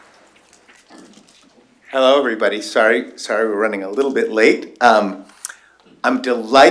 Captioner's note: applause